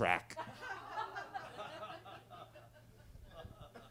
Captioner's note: attendees laughing